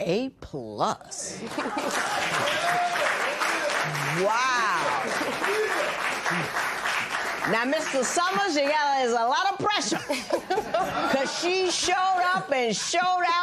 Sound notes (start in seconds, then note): 1.6 cheers and applause